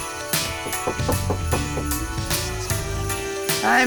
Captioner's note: knocking